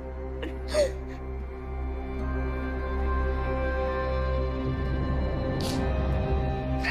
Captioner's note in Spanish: Sollozos